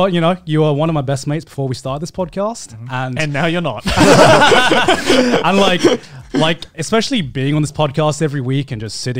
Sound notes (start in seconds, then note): 3.8 laughs